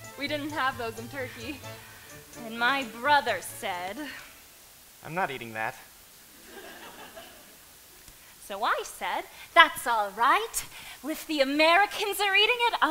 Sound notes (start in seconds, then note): 6.3 audience laughter